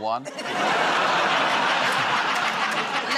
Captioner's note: laughter